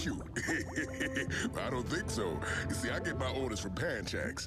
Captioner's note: laughing